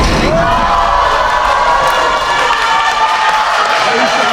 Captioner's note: spectators applauding